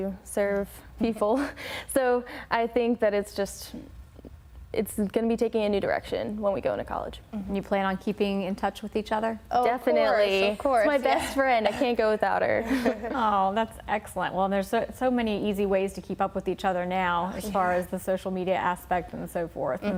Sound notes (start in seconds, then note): 12.6 laughter